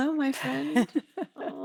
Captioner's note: laughing